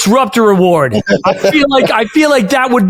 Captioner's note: laughing